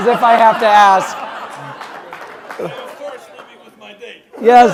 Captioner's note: laugh